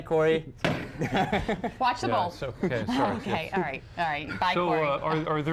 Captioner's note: laughter